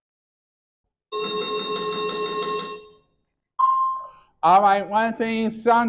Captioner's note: chiming sound effect